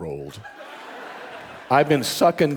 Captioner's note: audience laughing